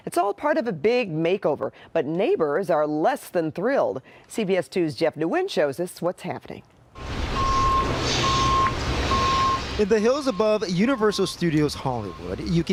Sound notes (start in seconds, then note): 7.0 alarm beeping